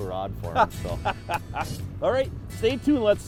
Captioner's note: laughing